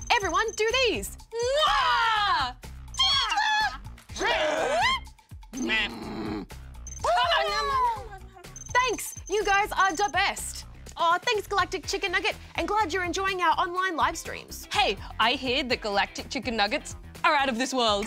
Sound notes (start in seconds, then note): 1.2 both make funny noises